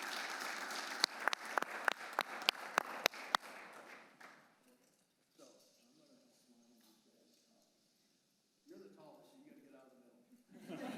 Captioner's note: applause